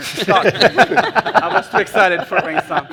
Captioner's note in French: rires